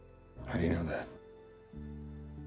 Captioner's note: voiceover